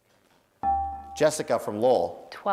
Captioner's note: dinging